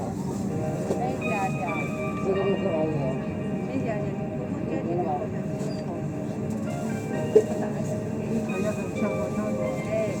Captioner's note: Mandarin Broadcast